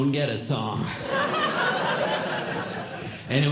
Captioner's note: audience Laughing